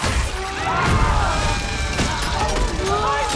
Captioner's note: screams